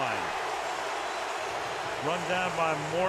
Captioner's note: cheering